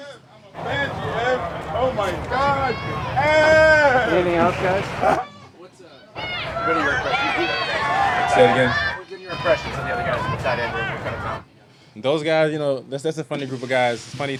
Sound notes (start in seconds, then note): 3.0 crowd yelling; 9.4 crowd noise